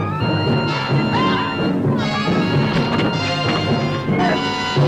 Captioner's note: men screaming